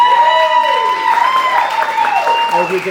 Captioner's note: applause